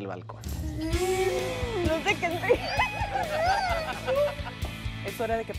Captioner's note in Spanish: Risas